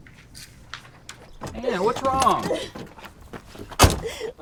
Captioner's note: Anne crying